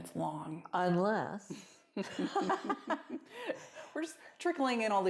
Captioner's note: laughter